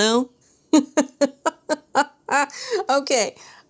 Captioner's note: laughter